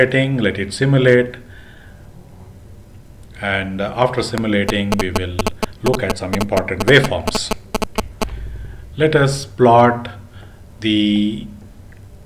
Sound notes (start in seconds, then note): 7.0 clock